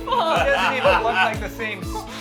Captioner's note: laughs